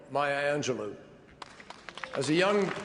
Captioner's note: applause